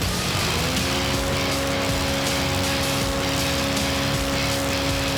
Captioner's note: airboat motor running; fan blowing; rock music